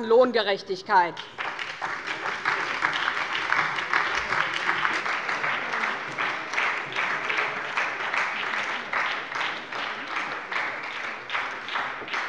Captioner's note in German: Beifall bei der SPD